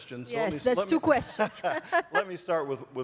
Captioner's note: laughter